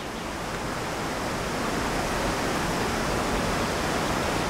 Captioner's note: water rushing, chirping